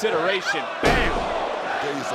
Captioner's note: body thudding